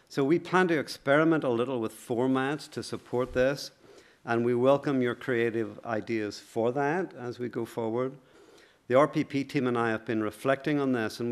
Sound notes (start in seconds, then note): none